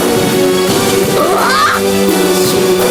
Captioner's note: roaring